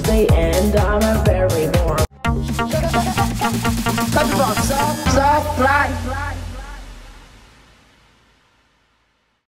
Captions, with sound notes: And I’m very warm. [upbeat music] Countryballs Supply! (echoing)